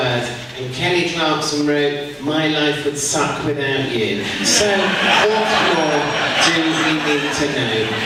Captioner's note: audience laughs